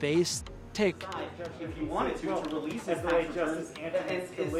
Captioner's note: indistinct chatter